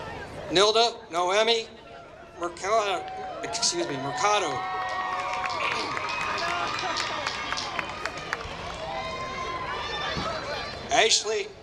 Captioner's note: applause